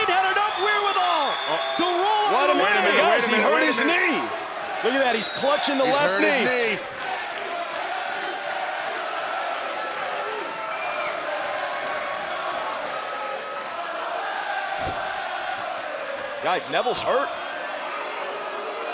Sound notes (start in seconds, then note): 11.1 fans chanting; 13.3 cheers & applause